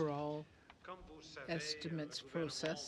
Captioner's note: speaking French